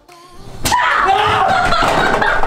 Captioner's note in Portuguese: Gritos